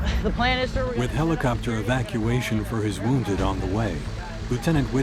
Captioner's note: voiceover